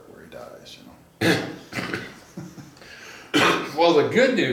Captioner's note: coughs; laughs